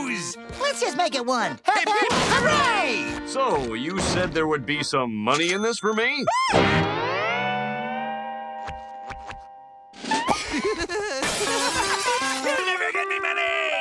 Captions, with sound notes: Let's just make it one. Hip hip, hooray! So, you said there would be some money in this for me? [squealing] [laughing] You'll never get me money!